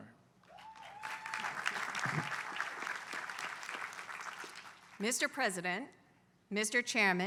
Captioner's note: applause